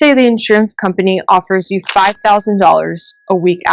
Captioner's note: cash register ka-chings